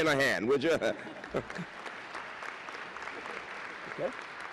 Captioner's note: applause